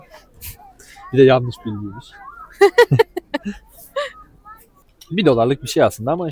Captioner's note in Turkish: kahkaha